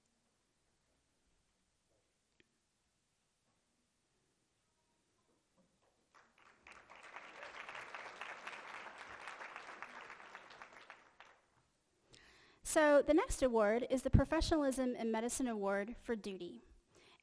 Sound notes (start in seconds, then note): 6.1 applause